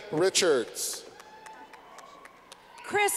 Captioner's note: clapping